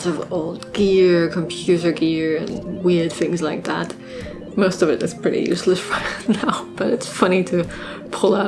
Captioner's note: laughing